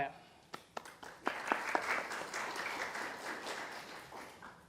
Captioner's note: audience applauding